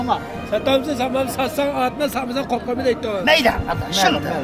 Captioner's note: talking in Uyghur language